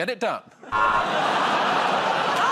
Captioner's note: buzzer